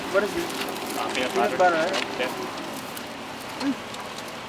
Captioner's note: crew chattering